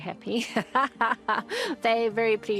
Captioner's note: laughs